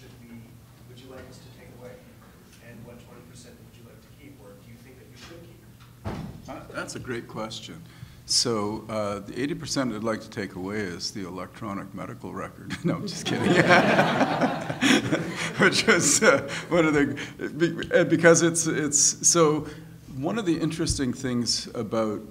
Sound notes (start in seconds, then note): 13.1 laughing